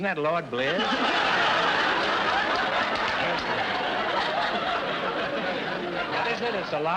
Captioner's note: audience laughter